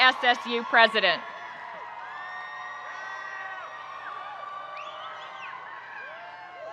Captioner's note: audience cheering and applauding